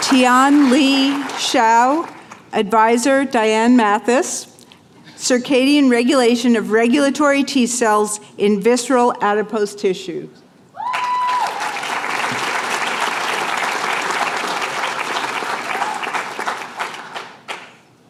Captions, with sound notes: Tianli Xiao. Advisor, Diane Mathis. Circadian regulation of regulatory T cells in visceral adipose tissue. [APPLAUSE]